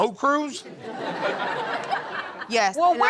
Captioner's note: audience laughs